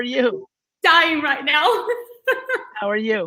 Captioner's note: laughing